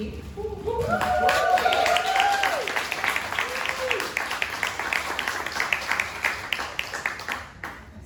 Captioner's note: audience applause